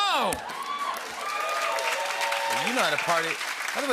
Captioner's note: cheers and applause